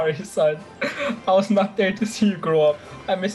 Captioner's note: sobbing